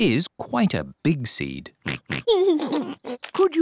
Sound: oinks and giggles

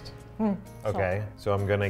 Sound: speaks in foreign language

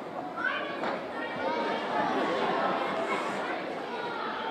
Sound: audience exclaiming

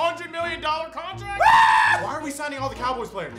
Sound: shrieks

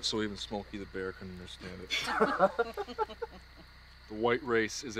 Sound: group chuckles

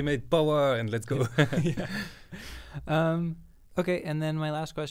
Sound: both laughs

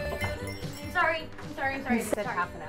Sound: bell jingling

